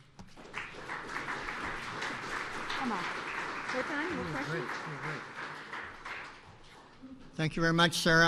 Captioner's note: applause